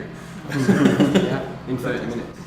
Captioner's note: laughs